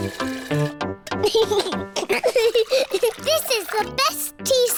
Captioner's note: giggles